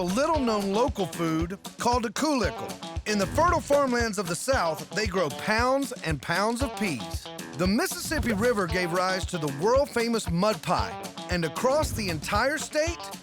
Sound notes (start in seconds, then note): none